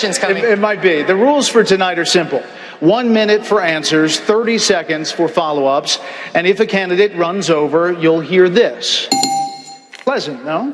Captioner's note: ding ding!